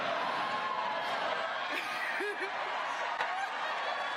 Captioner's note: cheers and applause; laughter